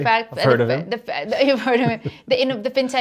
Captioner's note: laughs